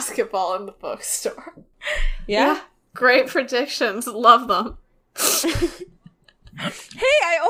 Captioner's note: laughs